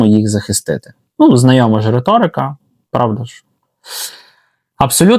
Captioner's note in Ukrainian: сопіння